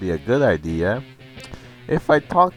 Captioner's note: breathes